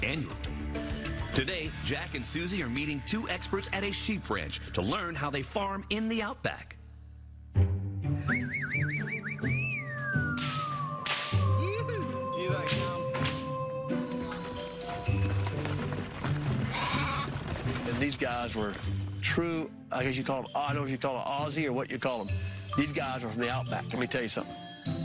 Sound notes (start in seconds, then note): 8.2 whistling; 10.2 whip snapping; 16.5 sheeps bleating